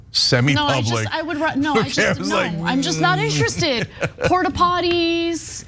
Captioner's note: laugh